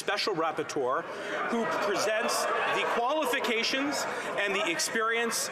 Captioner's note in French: voix de l'interprète